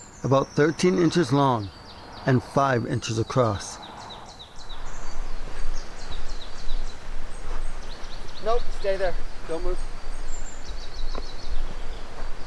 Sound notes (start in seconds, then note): 4.7 birds chirping; 4.7 vehicle engine revving